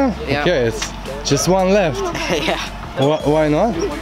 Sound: laughing

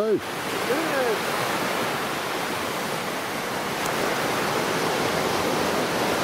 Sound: waves drowns out reply; waves crashing

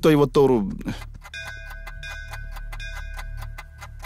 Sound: temple bell rings

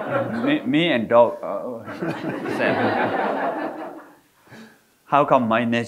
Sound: audience laughing; audience laughing

